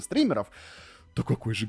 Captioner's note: inhaaale